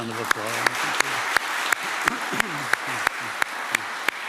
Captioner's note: applause